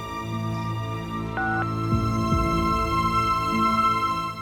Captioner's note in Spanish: Sonido al marcar